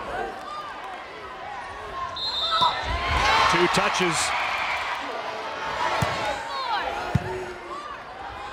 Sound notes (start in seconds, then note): 2.1 whistle blows; 2.3 crowd cheering